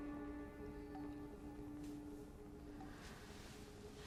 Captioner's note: water dripping